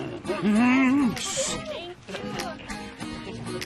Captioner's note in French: growling; shushes